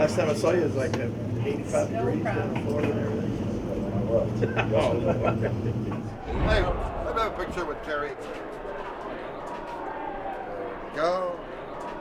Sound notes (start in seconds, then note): 4.7 all laugh